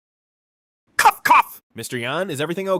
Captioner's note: cough cough